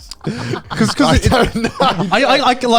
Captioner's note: laughing